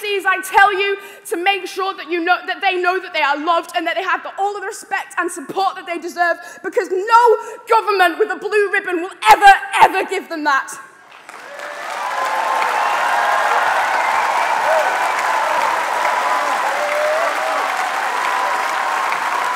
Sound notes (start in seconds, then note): 16.1 cheering and applause